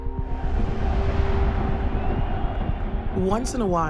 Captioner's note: cheering echoes